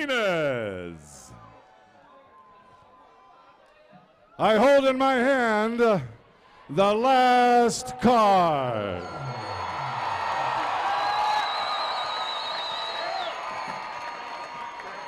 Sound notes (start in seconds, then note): 8.9 cheers and applause